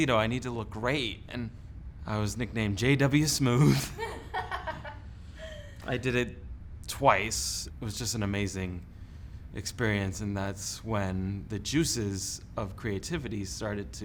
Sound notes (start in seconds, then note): 3.6 laughing